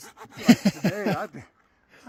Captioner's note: laughing